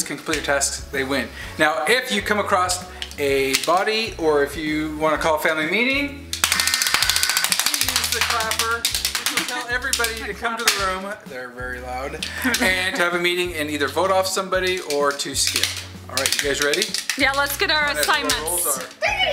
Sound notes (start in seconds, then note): 6.4 clapping; 6.5 buzzer sounds